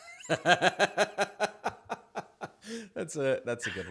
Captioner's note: laughs